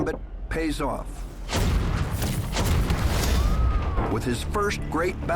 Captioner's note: gunfire and explosions